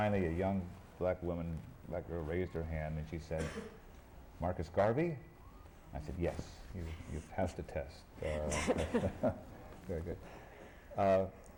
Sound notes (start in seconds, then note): 8.5 laughter